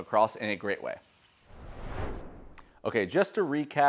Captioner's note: air whooshing